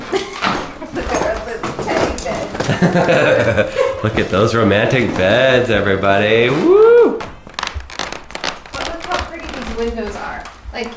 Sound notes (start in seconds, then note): 0.0 laughs; 2.7 laughs; 7.4 floorboards creaking